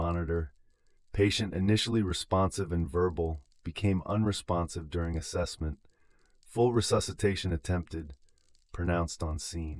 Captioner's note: breath